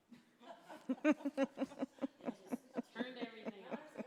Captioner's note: laughing